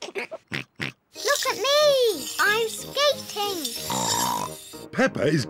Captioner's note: snorts